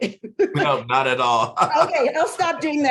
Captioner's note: both chuckling